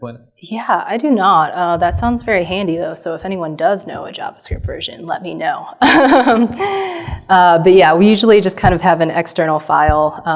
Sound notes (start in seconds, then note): 5.8 laughs